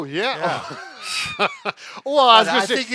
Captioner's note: chuckling